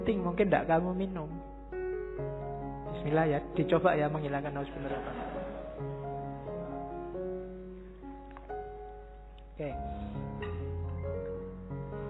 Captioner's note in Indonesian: mahasiswa tertawa